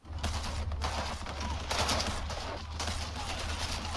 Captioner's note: machine guns popping